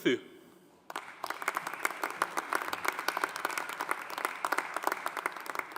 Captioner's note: audience applauding